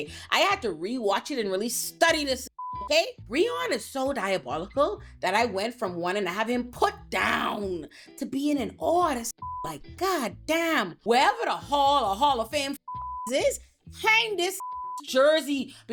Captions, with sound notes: I had to rewatch it and really study this (beep) okay? Breon is so diabolical that I went from one and I have him put down to being in awe of this (beep) like goddamn, wherever the hall or hall of fam (beep) is, hang this (beep) jersey